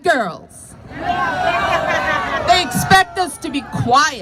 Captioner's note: crowd shouts